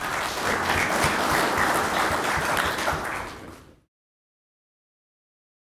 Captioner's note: clapping